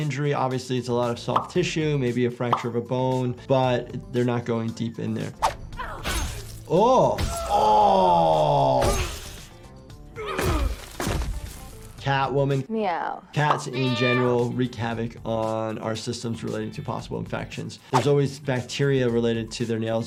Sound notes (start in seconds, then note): 6.0 blood splatting; 7.2 Green Lantern screaming; 10.4 body thudding